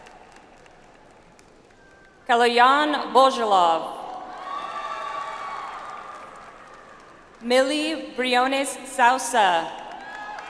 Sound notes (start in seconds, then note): 4.4 audience applauds